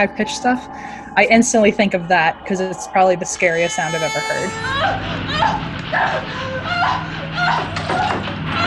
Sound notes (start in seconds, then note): 3.9 high pitched chainsaw sound; 5.3 woman crying